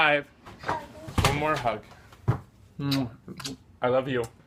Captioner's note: speaking faintly; kissing